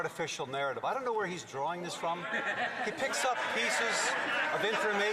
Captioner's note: some Applause